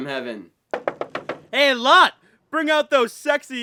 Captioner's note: knocking loudly